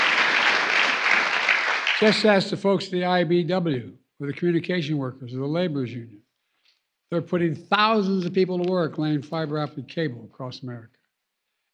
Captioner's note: applause